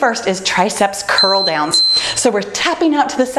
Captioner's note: timer beeping